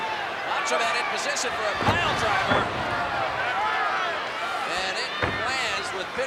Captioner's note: body thudding